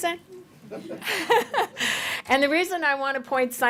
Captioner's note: laughter